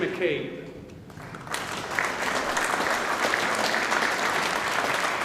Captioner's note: audience applauding